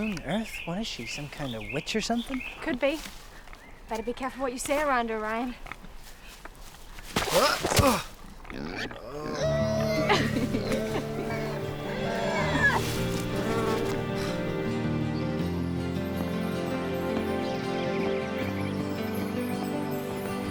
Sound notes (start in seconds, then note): 9.4 groans; 11.2 laughs